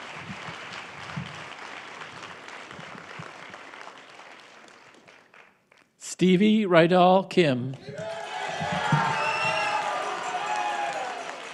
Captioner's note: applause